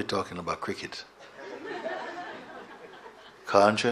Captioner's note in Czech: smích